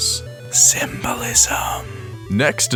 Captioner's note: whispers